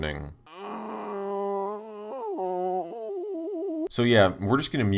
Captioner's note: long, excruciating moan